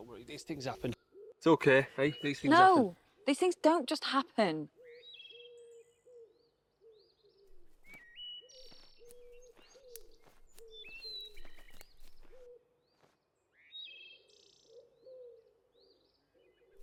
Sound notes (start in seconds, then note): 8.2 birds chirping